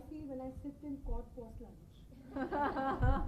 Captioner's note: laughing